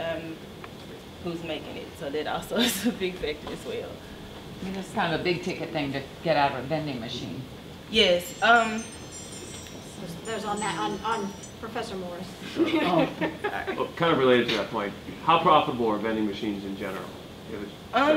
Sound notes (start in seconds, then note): 2.3 laughs; 9.6 window chimes sound effect playing; 12.5 laughter